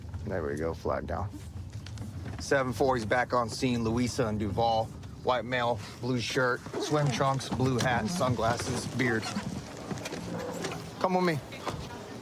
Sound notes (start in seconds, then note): none